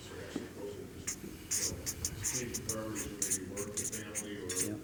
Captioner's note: marker squeaking